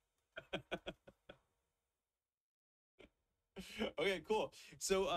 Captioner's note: chuckles